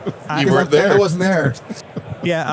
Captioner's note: laughing